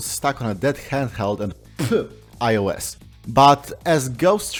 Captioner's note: spit